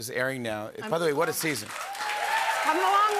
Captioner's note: cheers and applause